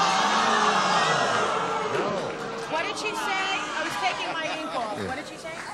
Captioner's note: groaning